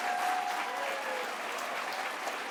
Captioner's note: applause